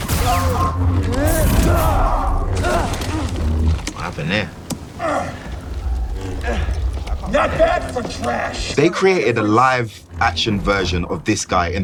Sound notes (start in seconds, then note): 1.9 grunting